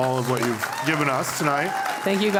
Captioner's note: applause